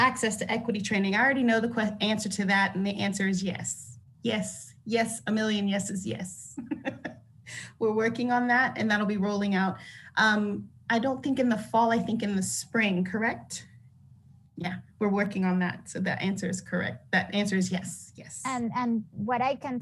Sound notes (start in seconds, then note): 6.6 laughs